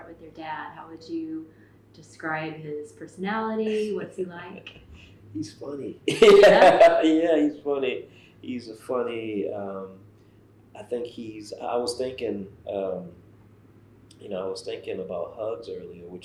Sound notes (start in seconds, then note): 6.0 laughs